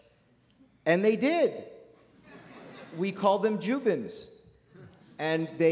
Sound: laughter

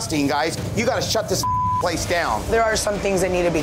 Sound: beeping

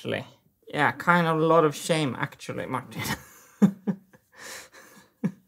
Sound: chuckles

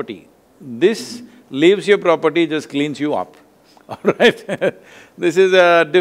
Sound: laughs

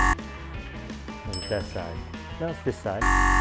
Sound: buzzer buzzing; bell ringing; buzzer buzzing

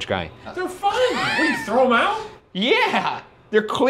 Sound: laughing

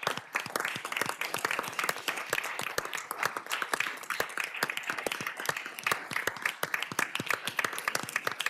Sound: cheers and applause

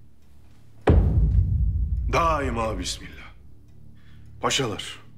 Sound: cane tapping sound

